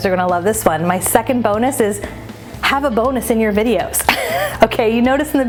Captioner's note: chuckles